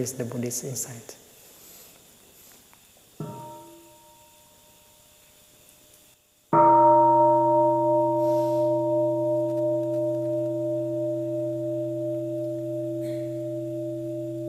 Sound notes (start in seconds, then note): 3.4 bell